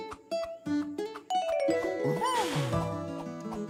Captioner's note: blowing sounds